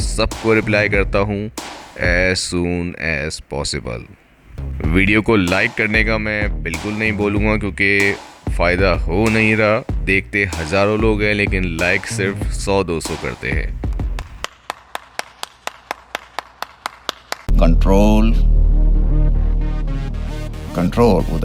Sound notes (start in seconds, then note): 13.9 claps sound